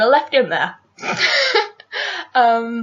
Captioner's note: laughs